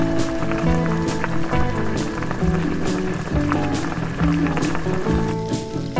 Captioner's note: boiling